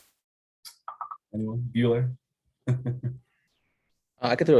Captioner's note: chuckles